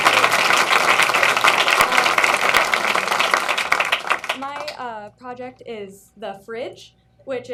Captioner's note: applause